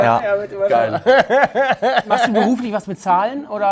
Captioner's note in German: Hämisches Lachen